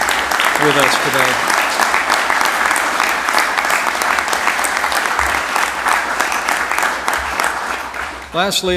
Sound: applause

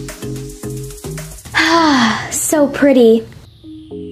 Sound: light music; sighs; light music

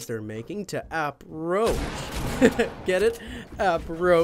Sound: chuckles

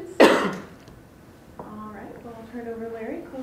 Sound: woman coughs

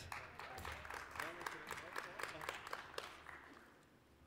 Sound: applause

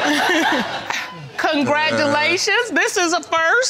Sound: all laughing

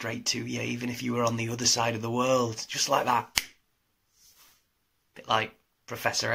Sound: clicks fingers

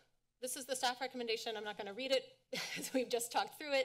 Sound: laughter

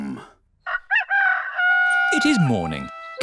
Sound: rooster crowing

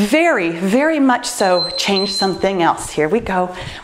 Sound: timer beeps

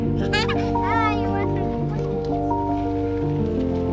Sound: giggles

